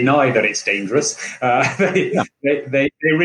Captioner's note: laughing